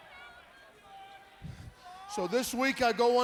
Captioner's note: crowd chatter